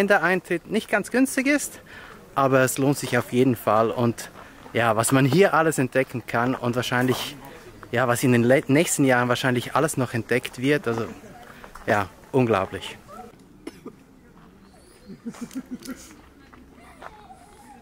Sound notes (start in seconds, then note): 13.6 coughs